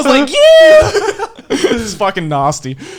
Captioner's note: all laughing